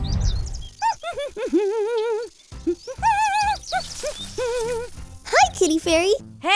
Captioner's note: hums